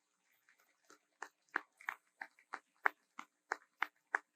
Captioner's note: audience applauds